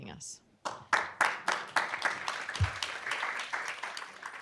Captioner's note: applause